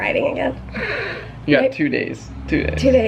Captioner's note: snorts